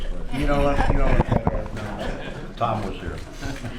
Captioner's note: laughter